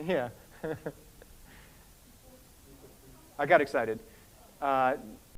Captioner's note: laughs